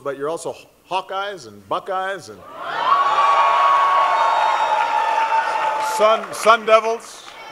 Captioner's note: cheering